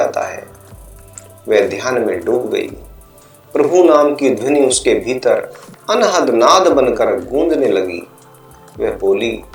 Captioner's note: struck sound